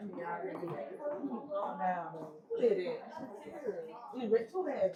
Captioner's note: crowd chattering